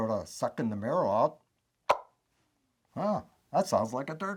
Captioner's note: wing bone turkey call clucks